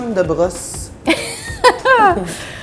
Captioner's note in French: rires